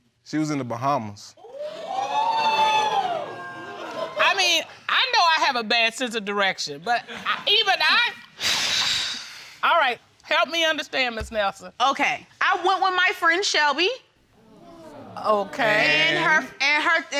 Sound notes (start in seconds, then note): 1.5 audience exclaiming; 9.2 sighs